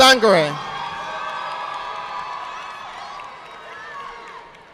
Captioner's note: audience applauding